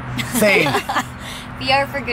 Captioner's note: laughs